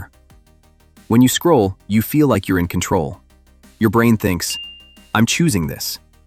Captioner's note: thoughtful